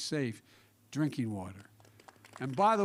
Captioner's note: applause